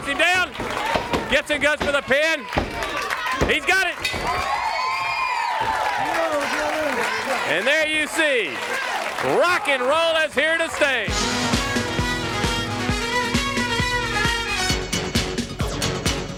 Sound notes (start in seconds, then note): 4.9 bell ringing; 6.2 crowd cheering; 13.8 crowd cheering